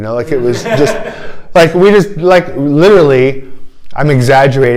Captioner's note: laughter